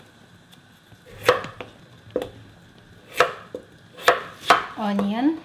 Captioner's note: knife chopping